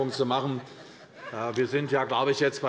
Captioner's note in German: Heiterkeit bei der CDU